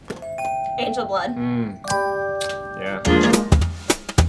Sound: upbeat music; clock ticking; bell dinging

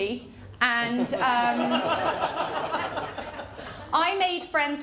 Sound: laughter

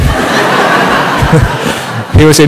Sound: laughter

